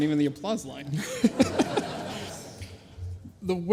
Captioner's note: laughs